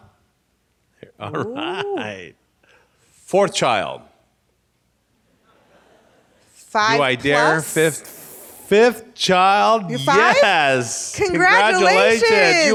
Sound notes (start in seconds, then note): 4.1 laughs